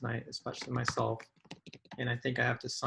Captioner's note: keyboard clanking